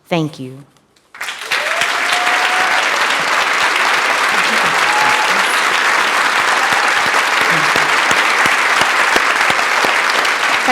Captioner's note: applause and Cheering